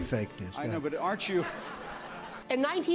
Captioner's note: laughing